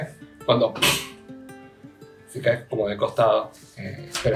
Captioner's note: hit